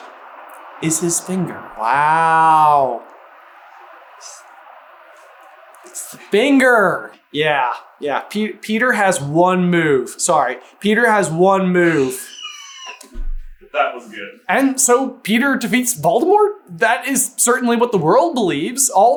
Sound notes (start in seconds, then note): 11.8 wheezing